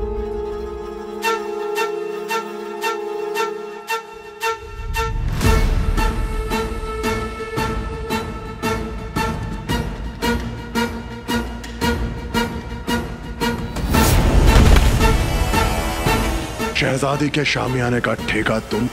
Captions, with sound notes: [dramatic music playing] [thud] 'You shall give the contract to erect the princess's marquee'